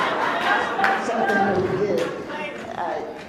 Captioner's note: laughs